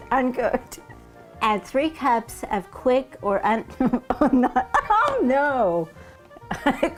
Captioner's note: laughing